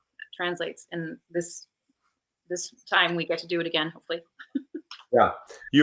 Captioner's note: laughs